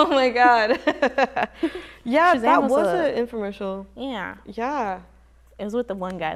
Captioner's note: laughs